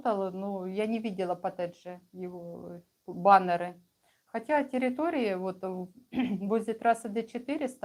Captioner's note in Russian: откашливается